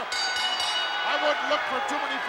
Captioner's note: bell rings